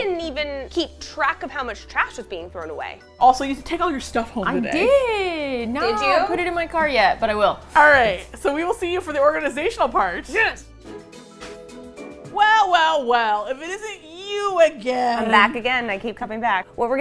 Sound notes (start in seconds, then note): 4.7 indignantly